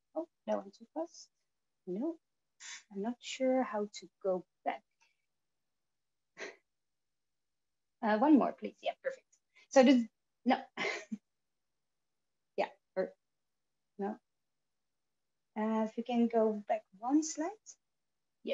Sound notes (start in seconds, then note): 10.8 chuckles